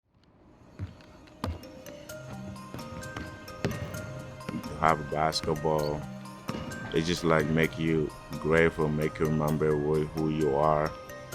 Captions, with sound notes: (foot stomps) (ball thuds) (gentle music) (ball dribbling) - When you have a basketball. They just make you grateful, make you remember who you are.